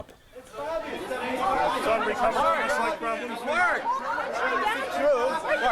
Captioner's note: chatter